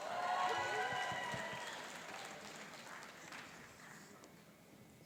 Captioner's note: cheering and applauding